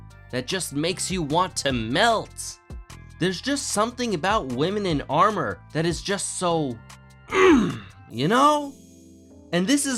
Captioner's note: grunt